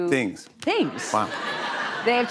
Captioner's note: laughter